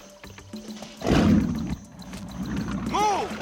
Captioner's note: engine starting